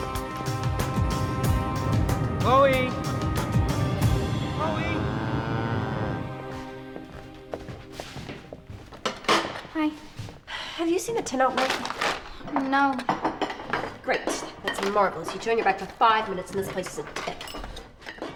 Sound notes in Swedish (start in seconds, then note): 16.8 klingande rätter dränker högtalaren